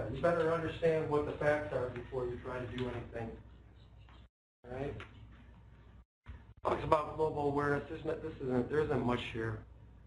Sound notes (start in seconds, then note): none